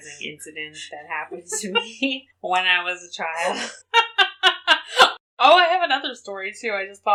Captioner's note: laughs